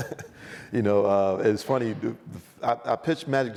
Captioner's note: laughs